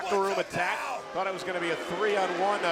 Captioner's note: audience jeers